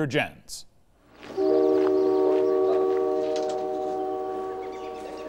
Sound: train hooting

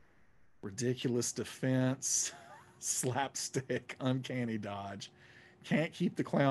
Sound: laughing

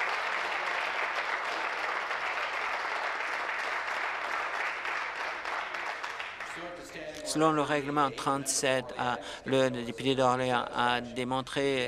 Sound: applause

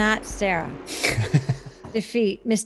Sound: laughter

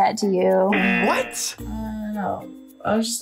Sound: buzzer rings

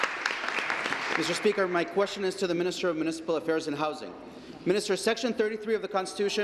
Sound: applause

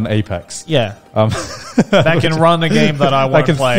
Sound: laughs

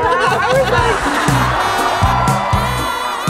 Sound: crowd cheers

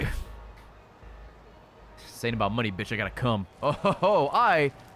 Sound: laughs

